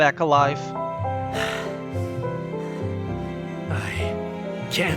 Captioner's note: sigh